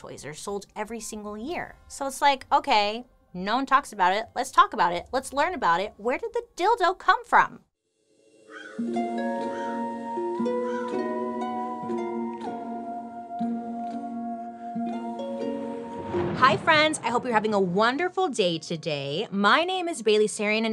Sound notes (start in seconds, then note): 8.4 crow cawing; 15.4 thunder rumbling